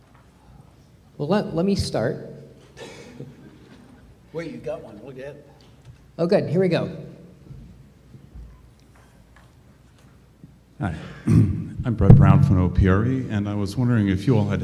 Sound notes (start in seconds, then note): 3.2 audience laughs